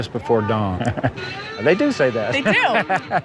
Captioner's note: chuckles; laughs